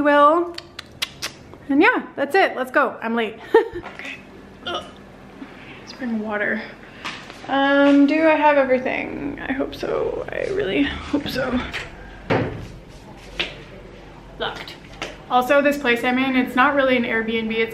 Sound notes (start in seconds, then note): 0.5 lip smacking; 3.4 laughter; 5.2 retching; 11.8 clanking